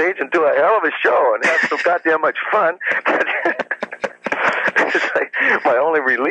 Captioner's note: laughs